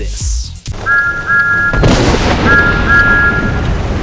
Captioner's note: whistling